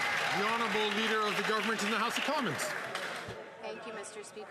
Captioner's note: some Applause